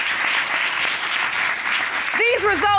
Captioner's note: audience applauds